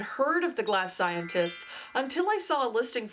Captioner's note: magical chime